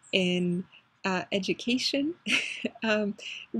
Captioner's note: laugh